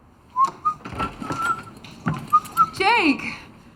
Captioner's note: whistling